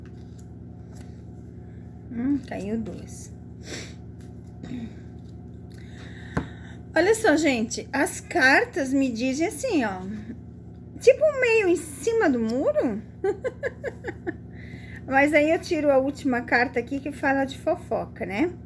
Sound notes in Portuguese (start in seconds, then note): 4.6 limpando a garganta; 13.2 risadas